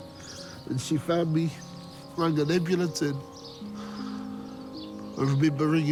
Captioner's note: inhales